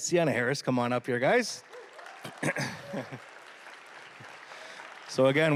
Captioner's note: applause